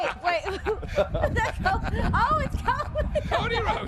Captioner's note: laughter